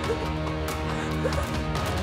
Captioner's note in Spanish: sollozos